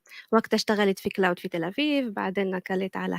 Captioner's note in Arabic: لغة أجنبية